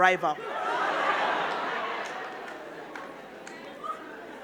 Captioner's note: crowd laughing